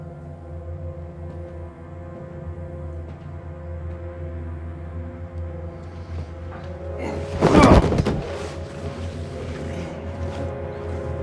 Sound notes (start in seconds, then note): 7.3 Ben exclaims; 7.3 Ben thudding; 8.6 tense music